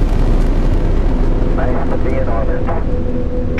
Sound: radio voice 4

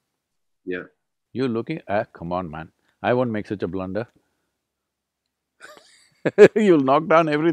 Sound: laughs

